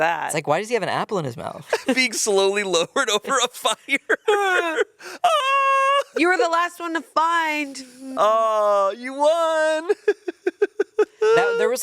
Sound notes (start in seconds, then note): 2.8 laughs; 4.3 groans; 5.4 yells; 9.6 laughs